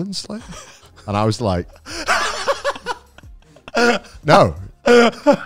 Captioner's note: laughing